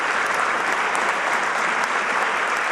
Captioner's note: applause